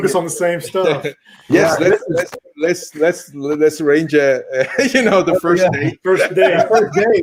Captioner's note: laughs